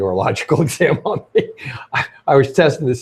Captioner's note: laughs